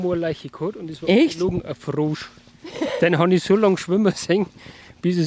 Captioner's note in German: lachen